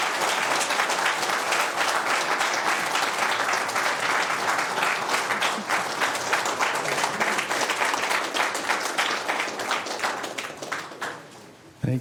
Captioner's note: applause